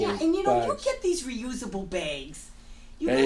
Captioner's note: voiceover